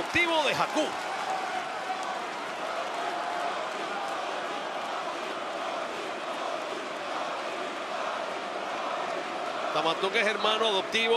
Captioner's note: applause